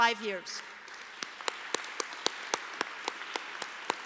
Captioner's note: applause